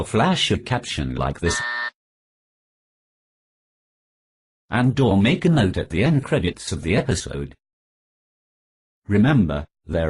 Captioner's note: buzzer noise